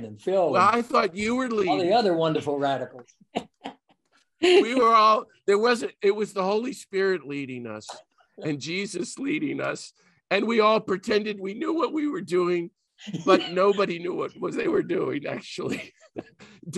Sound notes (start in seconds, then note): 3.3 laughing; 16.1 laughs